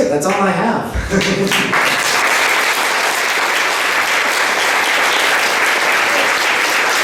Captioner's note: applause